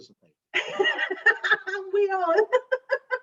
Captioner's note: laughs